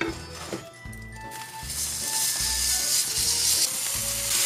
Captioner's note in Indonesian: Mendesis